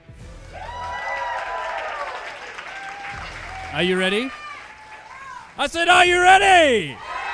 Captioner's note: audience cheering